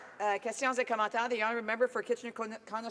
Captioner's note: applause